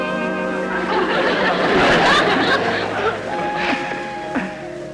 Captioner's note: audience Laughing